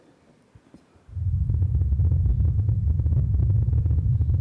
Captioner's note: wind